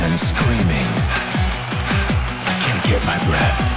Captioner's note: crowd cheering